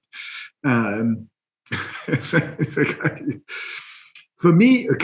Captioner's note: laughs